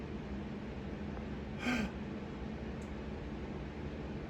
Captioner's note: gasps in shock